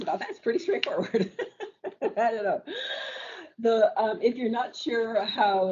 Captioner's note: laughs